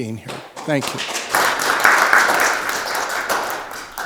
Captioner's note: audience applauding